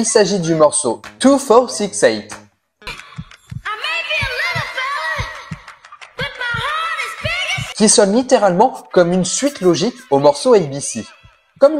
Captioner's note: laughs